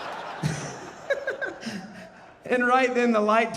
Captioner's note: audience laughing; laughing